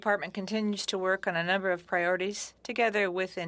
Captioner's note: speaking French